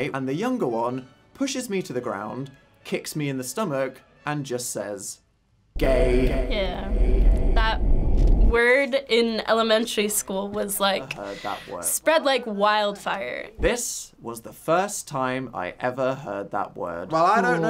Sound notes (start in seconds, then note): 5.8 echoing